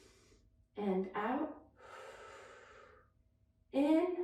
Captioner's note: inhales deeply; inhales deeply; exhales deeply